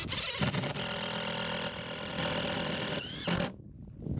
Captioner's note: drill whirring